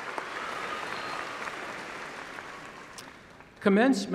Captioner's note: applause